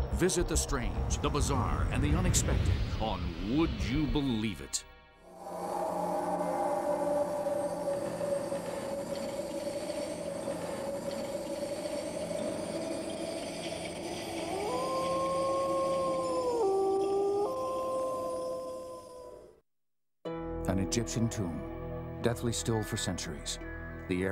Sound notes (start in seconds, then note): 5.7 eerie wind blowing; 14.6 wolf howling; 20.4 voiceover